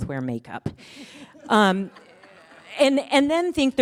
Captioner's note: attendees chuckle